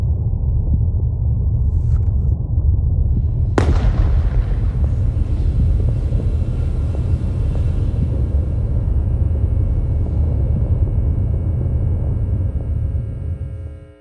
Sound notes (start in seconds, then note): 3.6 gunshot ringing out; 3.6 mic feedback buzzing